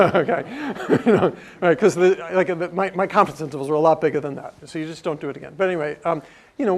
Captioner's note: laugh